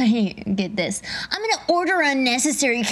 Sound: chuckles; imitating child's voice

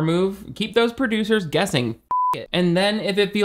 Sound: beep

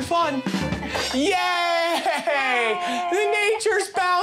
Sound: cheering

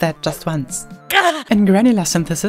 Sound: groan

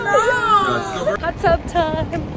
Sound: laughter

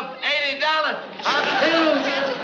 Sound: achoo

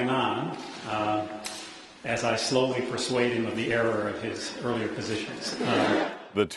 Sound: laughter

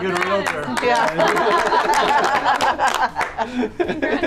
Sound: clapping

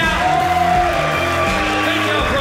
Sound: audience cheering

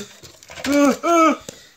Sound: exclamations

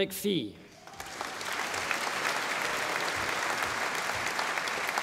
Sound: audience applauding

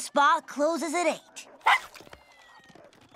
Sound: barking

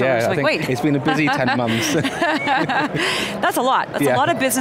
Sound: laughs

